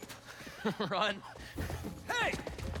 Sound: laughs

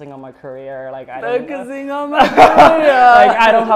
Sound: laughter

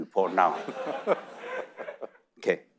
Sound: audience laughing

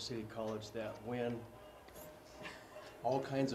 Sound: laugh

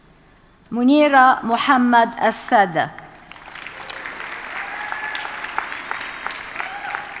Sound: audience cheers and applauds

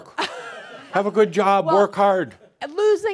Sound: more chuckles

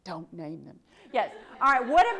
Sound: audience laughs

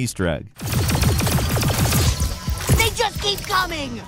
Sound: gun firing

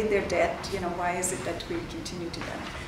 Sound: faintly speaking

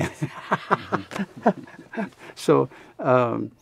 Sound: laughs

